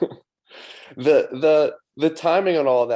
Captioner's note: chuckles